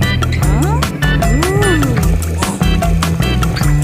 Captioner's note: woman sighing; man gasping